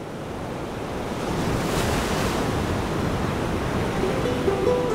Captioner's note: ocean waves crashing